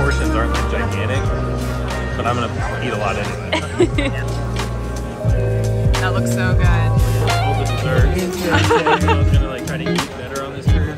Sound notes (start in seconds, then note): 3.5 laughs; 8.5 laughs